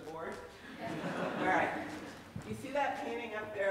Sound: audience laughing

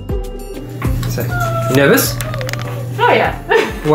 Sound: laughing

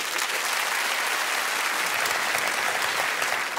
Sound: audience claps

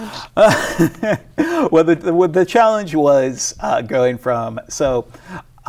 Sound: laughs

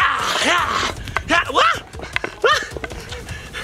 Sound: yelling

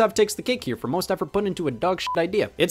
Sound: beep

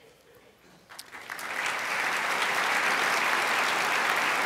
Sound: crowd applauds

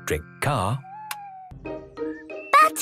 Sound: car lights click off

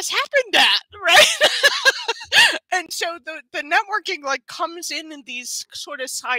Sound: laughs

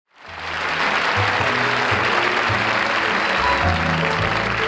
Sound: audience applauding

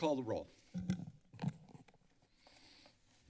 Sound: mic thump

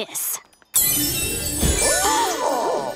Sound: shimmering tone

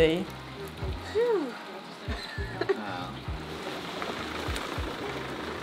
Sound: all chattering

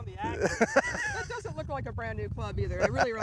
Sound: laughs

